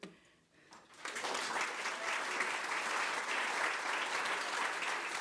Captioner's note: crowd applause